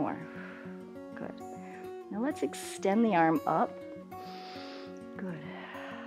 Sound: exhales; inhales

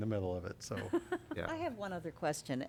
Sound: laughter

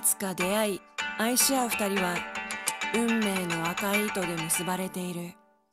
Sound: speaking in foreign language

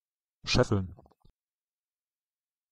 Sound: fast Pronunciation

